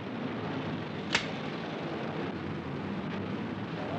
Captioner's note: gun cocks